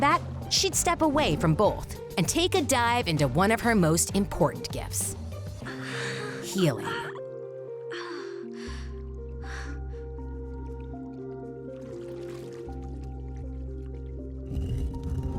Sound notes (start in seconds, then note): 7.8 sighing